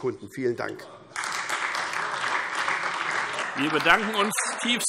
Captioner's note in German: Beifall SPD - Zuruf SPD: Super!